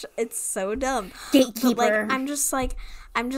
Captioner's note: mocking